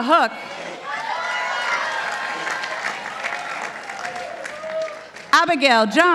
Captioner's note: participants applauding